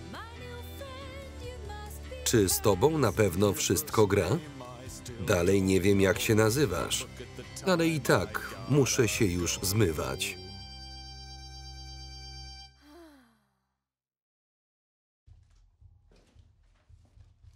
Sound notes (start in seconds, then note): 12.8 sighs